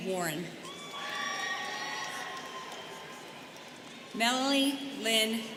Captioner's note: students cheering